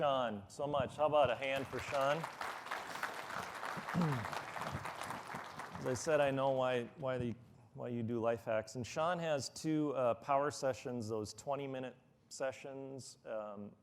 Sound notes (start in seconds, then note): 4.9 applause